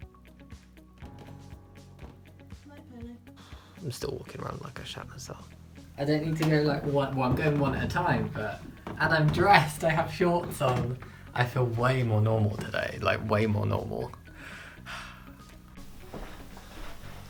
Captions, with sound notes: *Sigh* I'm still walking round like I shat myself I don't need to go...well I'm going one at a time, but And I'm dressed, I have shorts on I feel waaay more normal today Like way more normal. *Happy sigh*